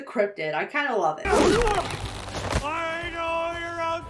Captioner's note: cryptozoologist shouts